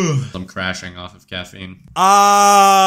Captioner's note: long yawn